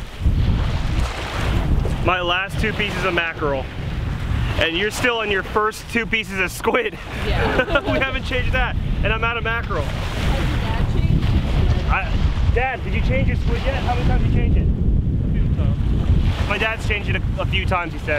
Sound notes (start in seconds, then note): 7.1 both laughing